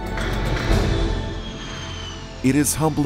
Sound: plane engine revving

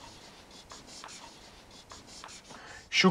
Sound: pen squeaking on whiteboard

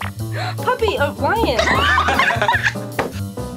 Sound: gasps; girls laugh

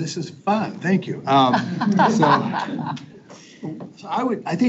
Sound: people chuckle

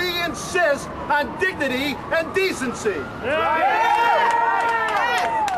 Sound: crowd cheers

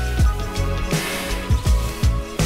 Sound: puff

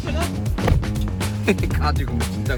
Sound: door closes

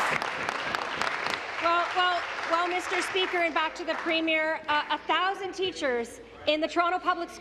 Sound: applause

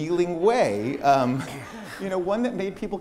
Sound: laughter

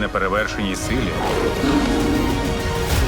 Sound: growls, roars

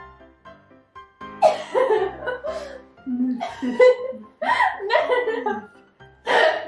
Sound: laughing

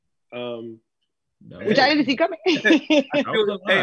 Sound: laughs

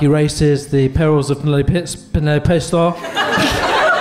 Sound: slurring

